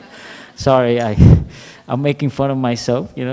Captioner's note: laughter